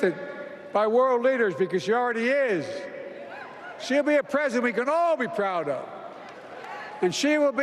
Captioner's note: applause